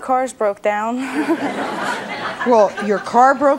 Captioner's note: audience laughs